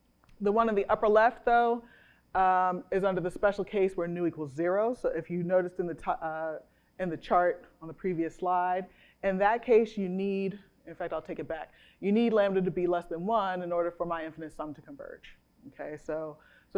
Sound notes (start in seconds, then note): none